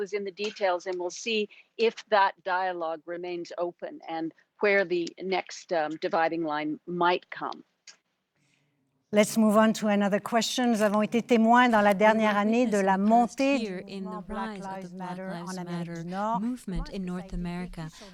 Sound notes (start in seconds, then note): 11.0 speaking French